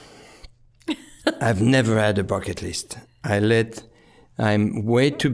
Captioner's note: chuckling